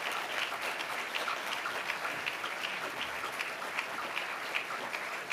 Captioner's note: audience applauding